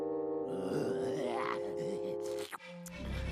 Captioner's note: growling